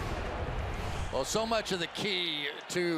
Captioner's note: swoosh